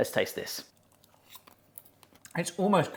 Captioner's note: munching